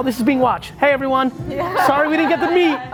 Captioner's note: audience laughing